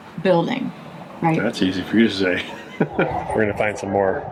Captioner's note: laughs